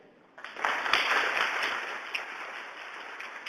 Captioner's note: applause